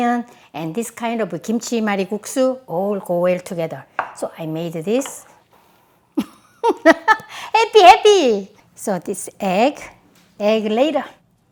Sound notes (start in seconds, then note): 6.7 laughs